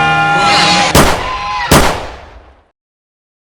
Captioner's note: ALAX and GANON scream; gunshots